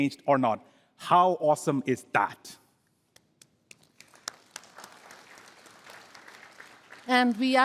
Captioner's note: applause